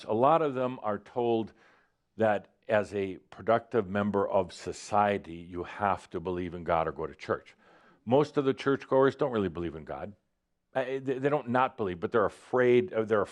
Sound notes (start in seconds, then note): none